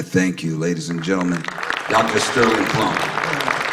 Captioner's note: applause